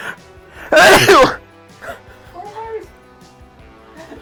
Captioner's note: sneezing forcefully